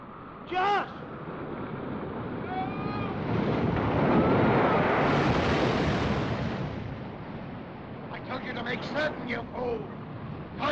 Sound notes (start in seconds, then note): 3.6 wind howls & waves crash